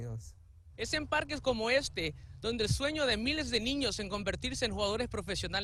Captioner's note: speaking in Spanish